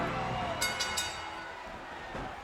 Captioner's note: bell ringing